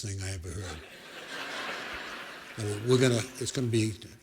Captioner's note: laughter